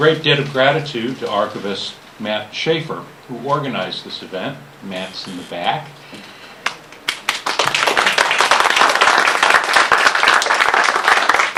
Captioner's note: applause